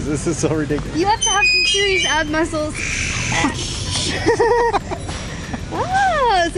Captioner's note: laughter